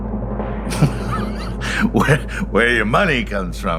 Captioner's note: timpani roll; laughing